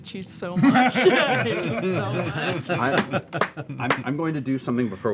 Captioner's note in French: rires